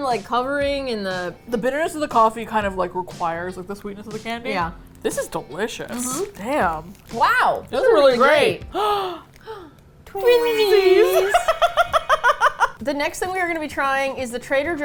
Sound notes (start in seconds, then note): 8.7 both gasp; 10.6 laughs